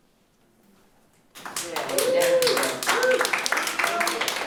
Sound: audience applauds

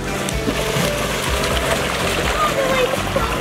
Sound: water splashing

